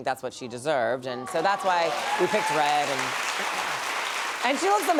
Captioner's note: applause